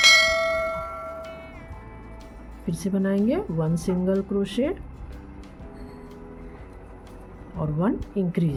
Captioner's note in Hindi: घंटी की आवाज़